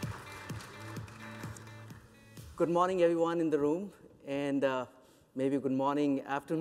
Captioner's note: applause